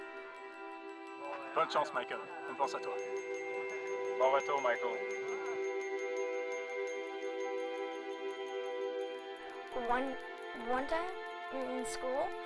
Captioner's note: speaking french